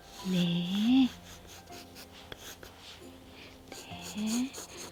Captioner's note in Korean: 슥슥슥 연필 소리